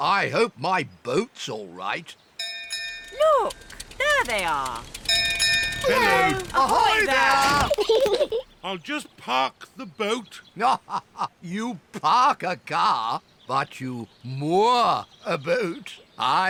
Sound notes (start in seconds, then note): 2.4 bell rings; 5.8 peppa and george giggle; 10.1 laughs